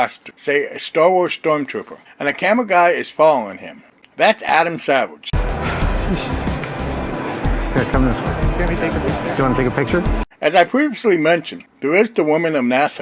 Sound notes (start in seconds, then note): 5.4 crowd noise